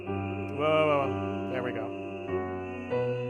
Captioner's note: humming